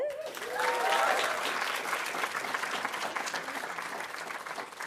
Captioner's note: audience applauding